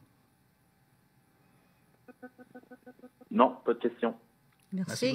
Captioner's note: speaking French